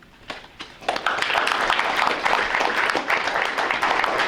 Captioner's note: applause